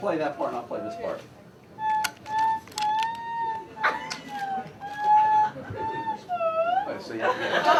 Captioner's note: laughter